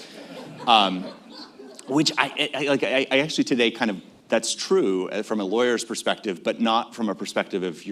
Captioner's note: laughter